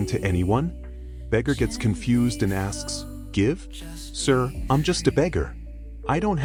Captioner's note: confused